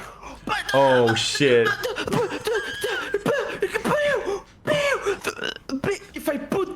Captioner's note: screams; wheezing; stuttering